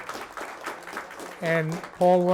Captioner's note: applause